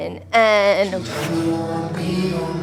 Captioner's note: air sound effect